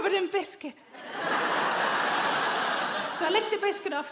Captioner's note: audience laughing